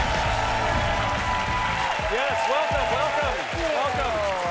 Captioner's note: audience cheers and applause